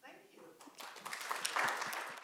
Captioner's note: applause